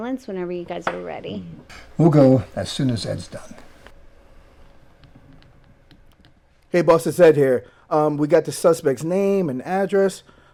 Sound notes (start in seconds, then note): none